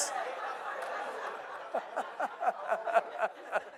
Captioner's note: audience laughing